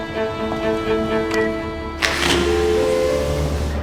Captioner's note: sound of elevator doors opening; sound of elevator button being pushed; sound of airport hustle and bustle